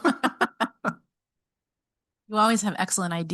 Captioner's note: group laughing